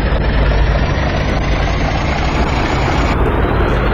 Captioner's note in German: Ansteigendes Surren